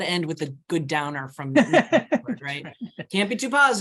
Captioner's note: laughing